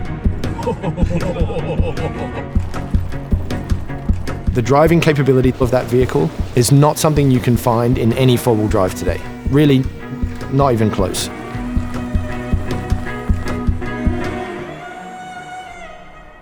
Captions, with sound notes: (man laughing) - The driving capability of that vehicle is not something you can find in any four wheel drive today, really not even close. (bright music playing)